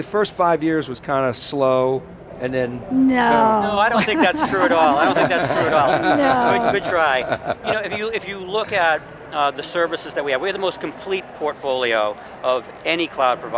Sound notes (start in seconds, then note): 3.1 laughing; 3.1 laughs; 7.2 laughing